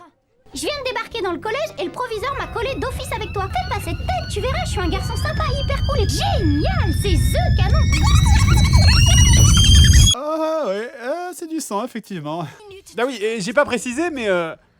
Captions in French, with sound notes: *avec une voix aigüe* "J'viens de débarquer dans le collège et le proviseur m'a collé d'office avec toi... Fais pas cette tête, tu verras, je suis un garçon sympa, hyper cool et... Génial, c'est THE canon" *blabla aigü et accéléré* Ah oui... Ah, c'est du sang, effectivement... Bah oui et j'ai pas précisé mais...